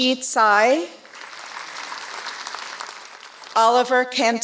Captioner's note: applause